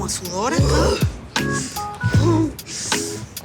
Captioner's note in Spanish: Gruñidos